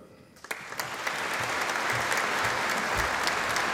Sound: audience applauding

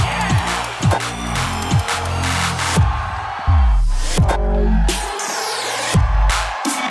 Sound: cheering

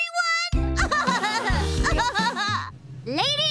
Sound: laughing

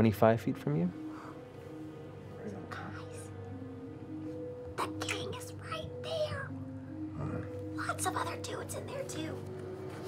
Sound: whispering

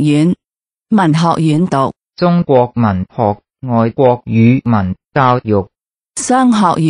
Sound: ภาษา ต่างประเทศ

